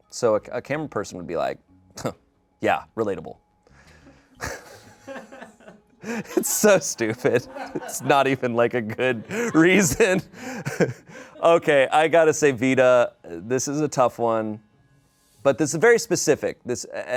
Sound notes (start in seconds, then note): 6.1 everyone laughs